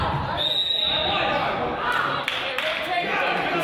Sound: whistle blows

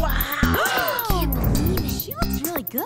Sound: gasps

